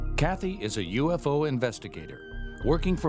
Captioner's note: voiceover